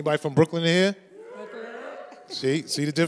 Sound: more scattered cheers among audience

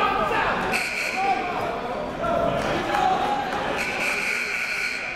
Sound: buzzer goes off

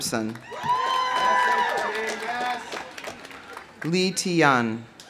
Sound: audience applauding; audience cheering

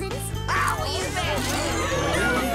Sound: yelling

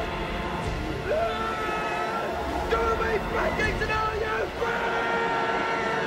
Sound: yelling

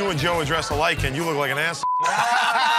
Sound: beep; laughing

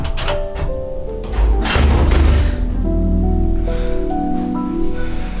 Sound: door opening sound

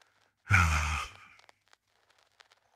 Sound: exhales

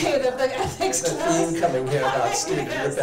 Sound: laughing

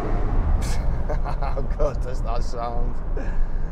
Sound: laugh

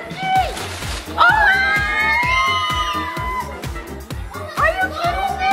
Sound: kids screaming

